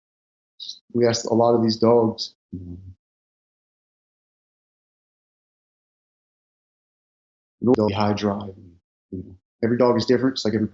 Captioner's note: sound distorts